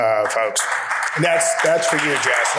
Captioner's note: audience clapping